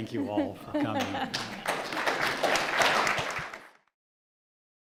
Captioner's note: audience applauds